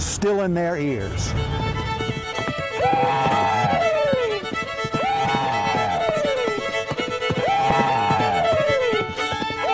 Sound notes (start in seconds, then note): 1.5 upbeat music; 2.6 people shouting